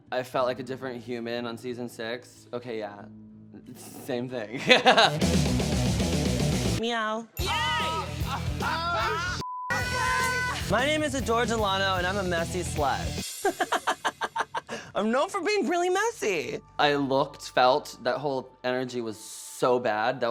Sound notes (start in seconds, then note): 4.6 rock music; 7.4 laughing and cheering